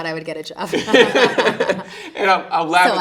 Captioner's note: interviewer laughing